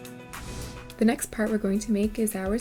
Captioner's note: air whooshes